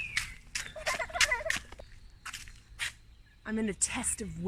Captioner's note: laughs